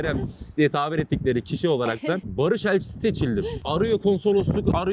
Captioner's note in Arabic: ضحكة